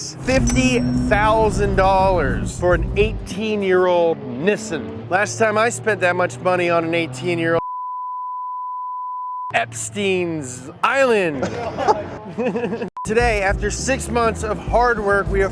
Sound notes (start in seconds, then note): 7.6 beep